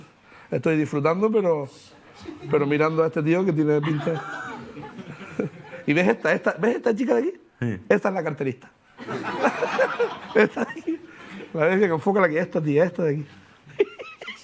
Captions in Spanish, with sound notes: Estoy disfrutando, pero... pero mirando a este tío, que tiene pinta... ¿Y ves esta? ¿Ves esta chica de aquí? Sí. Esta es la carterista. (Risas) Esta de aquí. Enfócale. Esta tía. Esta de aquí.